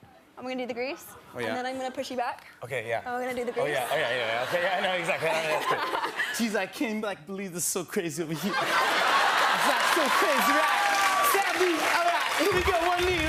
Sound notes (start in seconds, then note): 6.8 imitating travolta